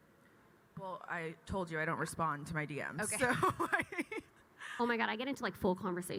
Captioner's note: chuckles